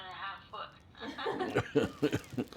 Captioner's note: laughter